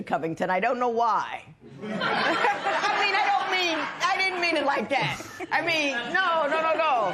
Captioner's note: laughter